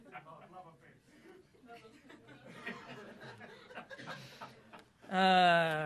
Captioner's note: laughter; laughter